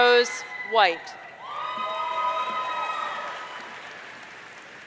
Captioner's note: audience cheering